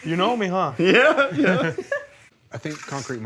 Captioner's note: all laugh